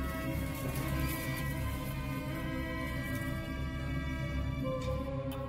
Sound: truck rattling

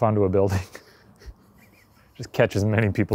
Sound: laughing

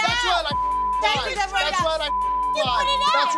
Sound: beep

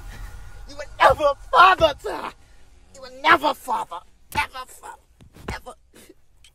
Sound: weeping

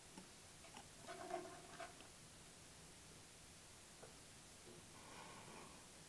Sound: hand scraping lightly on the block

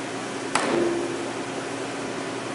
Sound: hammer Noise

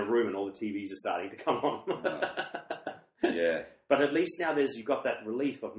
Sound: laughs

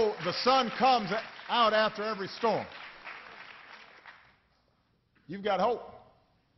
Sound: applause

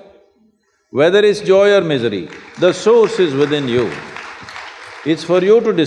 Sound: applause

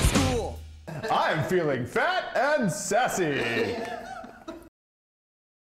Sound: laughter

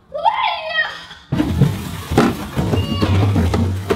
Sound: child shouts

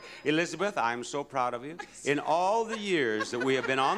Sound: laughs

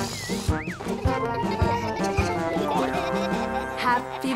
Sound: laughter

